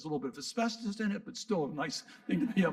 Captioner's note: audience laughing